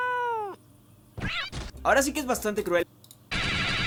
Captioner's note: Spanish